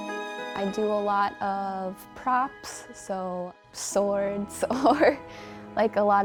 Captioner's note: chuckles